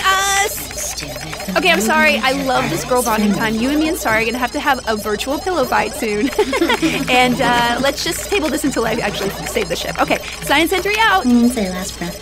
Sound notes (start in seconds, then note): 6.1 laughs